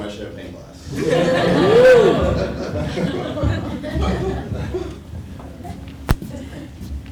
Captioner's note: laugh